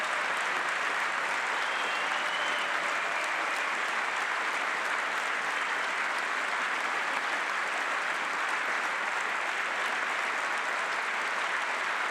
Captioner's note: applause